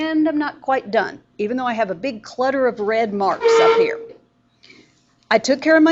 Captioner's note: chair squeals loudly